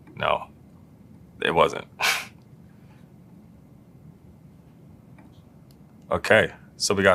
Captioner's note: laugh